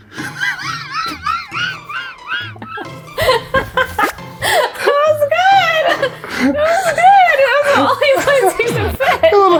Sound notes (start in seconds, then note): 0.1 laughs